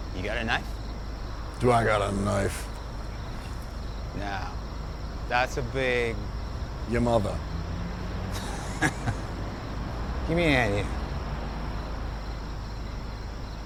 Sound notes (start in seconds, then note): 8.3 David laughing